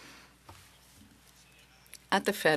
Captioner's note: speaking French